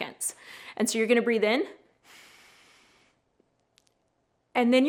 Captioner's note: inhales